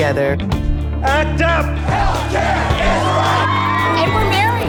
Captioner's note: chanting; cheering